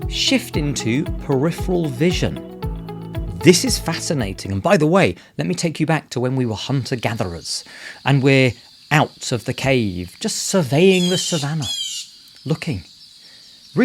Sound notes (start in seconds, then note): 7.4 insects chirring